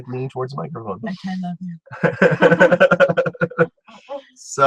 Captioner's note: funny voice bass; laughs